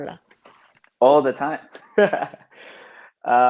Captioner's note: laughs